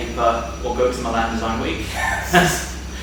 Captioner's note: laughs